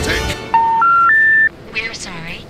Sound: number-disconnected beep

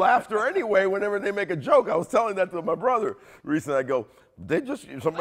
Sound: cheers

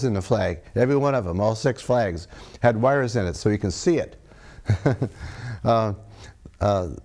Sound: laughs

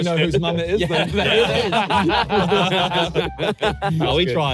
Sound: everyone laughing

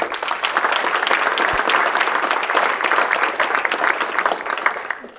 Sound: audience clapping

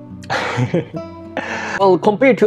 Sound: laughs

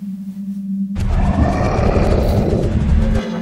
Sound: creature terrifying roar

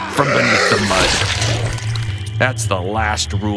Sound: swamp splatters

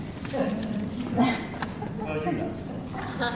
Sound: audience members laughing

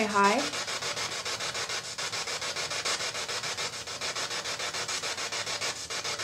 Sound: static

